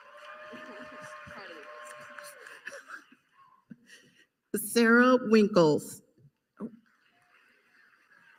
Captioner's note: applause